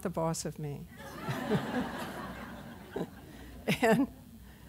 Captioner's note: laughter